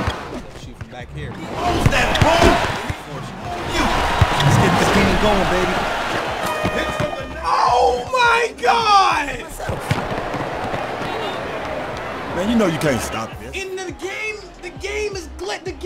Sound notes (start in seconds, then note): 6.3 buzzer sounds